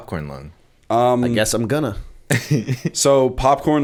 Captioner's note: chuckle